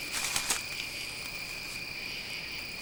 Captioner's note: movement In Leaves